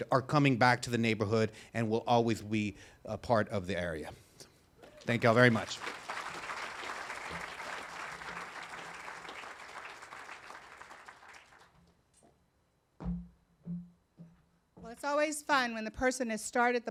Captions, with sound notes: are coming back to the neighborhood, and will always be a part of the area. Thank y'all very much. (audience applauding) - Well, it's always fun when the person that's started